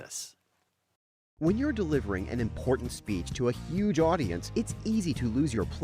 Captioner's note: voiceover